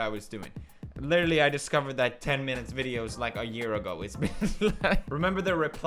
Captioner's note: laughs